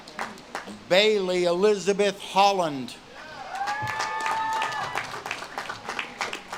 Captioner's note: audience claps and cheers